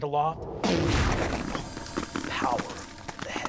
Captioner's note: loud crashes